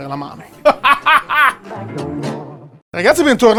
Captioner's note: evil - but still cute - laugh